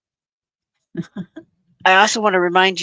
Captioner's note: chuckling